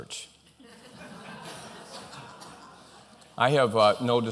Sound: laughter

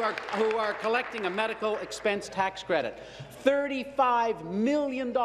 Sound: applause

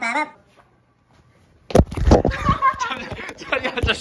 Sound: ahahhaahhaahhahahahahahahahahahahaha

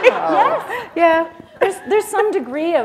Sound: laughter

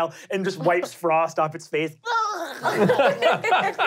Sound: laughing; squealing

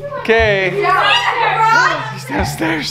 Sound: shouting

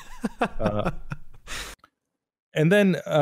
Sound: laughs

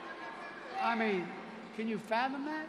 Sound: crowd booing

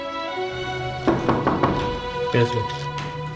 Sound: door knocking

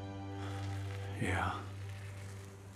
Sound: sighs

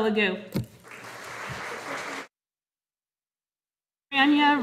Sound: audience applauding

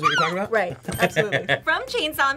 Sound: laughs

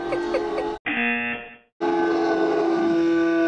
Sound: laughing; buzzer

